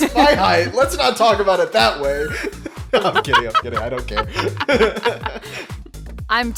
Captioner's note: laughs